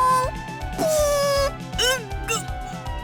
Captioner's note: raspberry